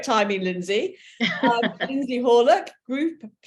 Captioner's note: chuckling